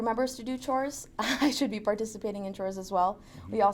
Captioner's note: laughs